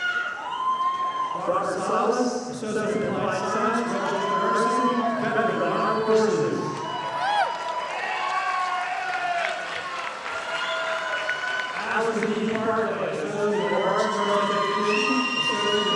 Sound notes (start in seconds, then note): 7.2 audience applauding